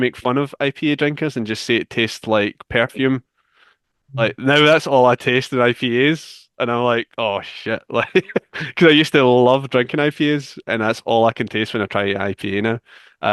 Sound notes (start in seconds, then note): 7.4 laughs